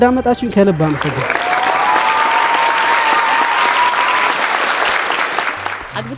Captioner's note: applause and scream